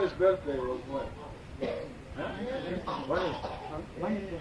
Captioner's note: crowd talking